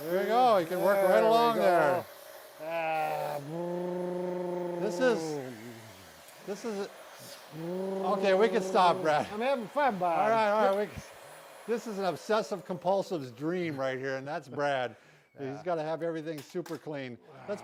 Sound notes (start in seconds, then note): 2.9 imitates vacuum clearer